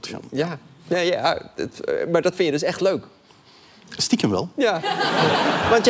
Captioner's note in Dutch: gelach